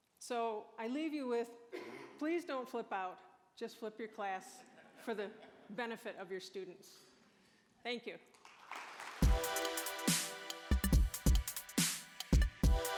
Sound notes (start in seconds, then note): 4.4 audience laughing; 8.3 applause